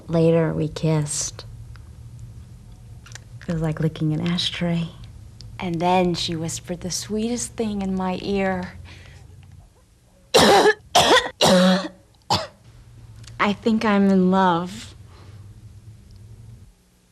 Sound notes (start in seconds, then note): 10.3 coughing